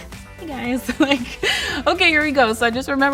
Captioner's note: laughs